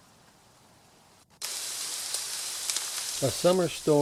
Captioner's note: rain